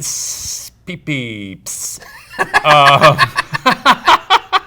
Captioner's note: laughs